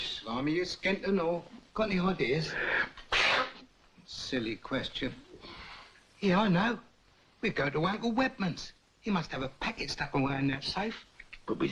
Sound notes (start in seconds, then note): 2.6 Charlie sneezes